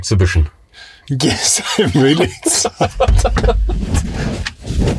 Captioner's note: laughter